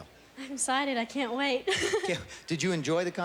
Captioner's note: gigigglgling